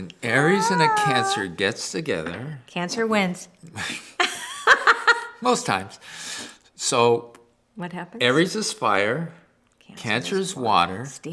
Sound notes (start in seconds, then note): 3.8 laughter